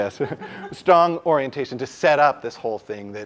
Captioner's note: laugh